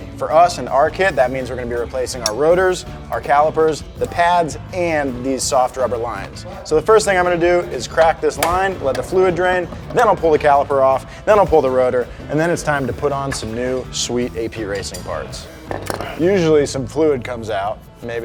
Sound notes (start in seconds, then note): none